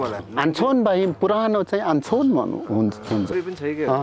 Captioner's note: limbu dialect